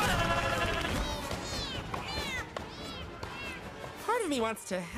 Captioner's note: meowing